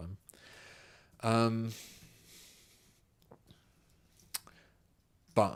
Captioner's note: silence